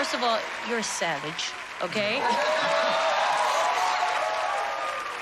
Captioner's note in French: laughter